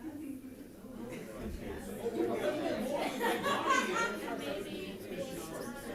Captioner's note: chattering and laughter